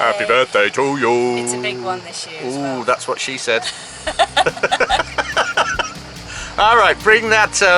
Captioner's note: laughs